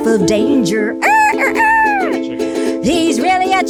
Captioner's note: imitating bird crowing